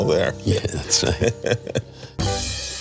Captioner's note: laughing